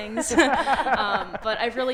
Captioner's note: audience laughing